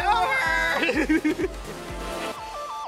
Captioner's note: laughing; bright electronic music